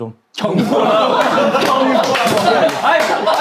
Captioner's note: clapping